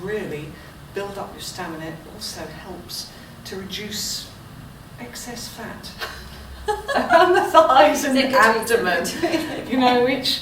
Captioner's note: laughter